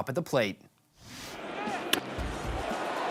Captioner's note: crowd cheering